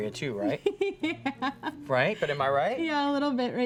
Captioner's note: laughs